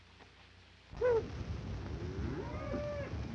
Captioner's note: cows mooing